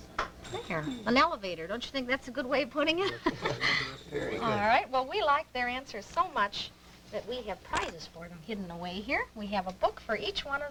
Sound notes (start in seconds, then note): 3.0 laughter